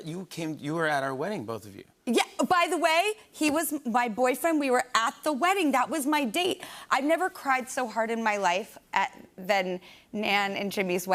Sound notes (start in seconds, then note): none